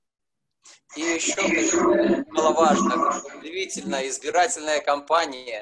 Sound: speaking foreign language

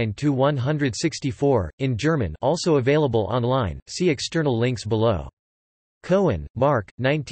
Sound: in German

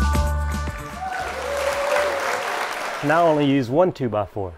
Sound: audience applauding

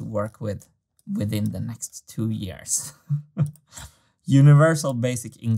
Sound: chuckles

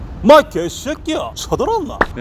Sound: with Gyeongsang-do accent

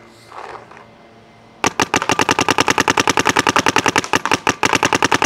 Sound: paintball gun shooting rapidly

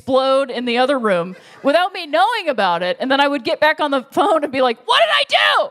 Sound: laughter

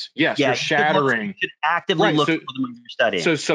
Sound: chattering

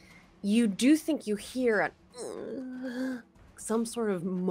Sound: mimics moan

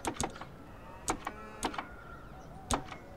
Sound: cow sound

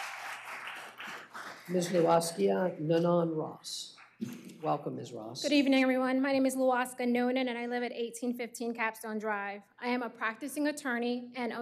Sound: applause

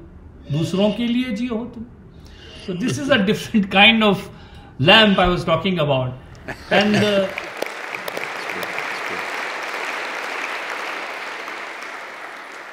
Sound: Sadhguru laughs; applause

